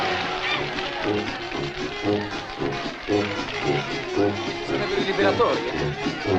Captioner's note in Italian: applausi e grida di gioia